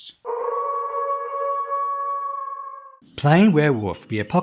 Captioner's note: howling wolf